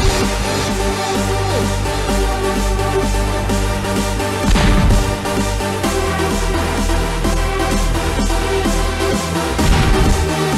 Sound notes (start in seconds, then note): 4.5 blood splatter